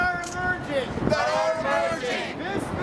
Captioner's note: crowd Responds